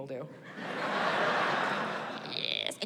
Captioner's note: in elderly woman voice